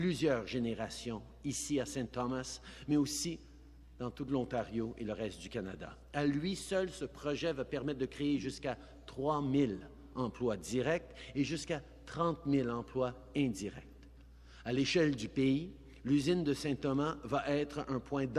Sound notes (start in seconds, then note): 6.4 speaking in french